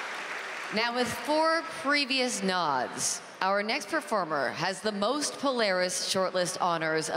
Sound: applause

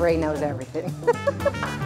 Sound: laughs; applause

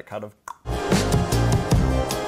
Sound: clicks

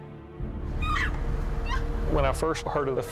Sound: shouting

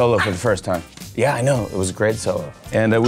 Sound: puppy yaps

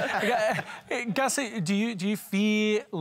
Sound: laughs

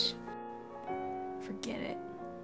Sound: whispering

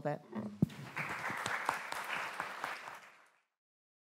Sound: applause

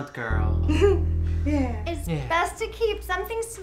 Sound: chuckles

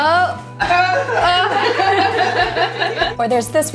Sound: laughing

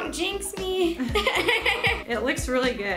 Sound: both laugh

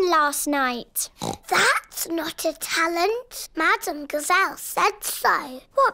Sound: oinks

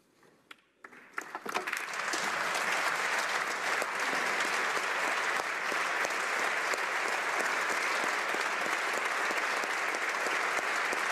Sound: applause

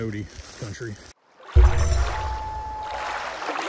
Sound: water rushing, loon calling

